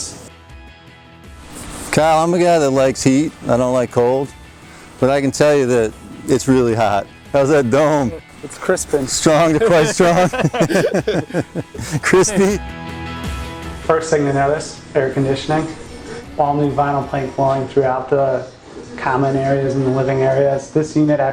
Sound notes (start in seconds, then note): 8.9 laughing